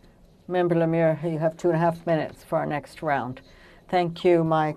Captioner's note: speaking French